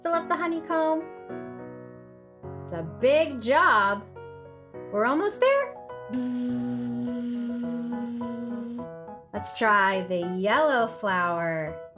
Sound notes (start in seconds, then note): 6.2 buzzing